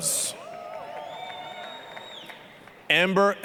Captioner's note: applause, cheering